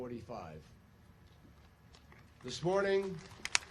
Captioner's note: applause